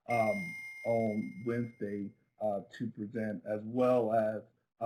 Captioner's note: bell rings